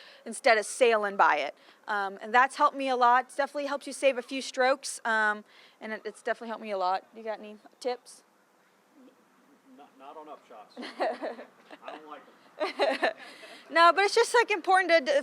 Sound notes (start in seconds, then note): 10.7 laughing